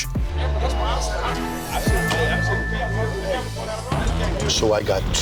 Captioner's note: dramatic instrumental music; bar chatter